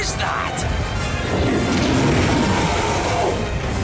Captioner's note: rumbling growl